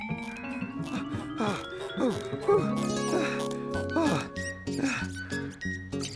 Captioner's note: breathlessly; squeaking